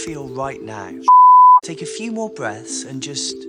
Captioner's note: beep